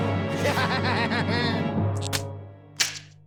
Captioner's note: laughing evilly